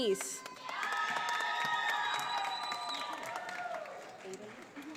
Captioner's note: audience applauding